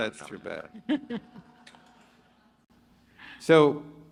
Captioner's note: chuckles